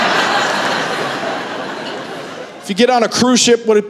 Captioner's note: laughter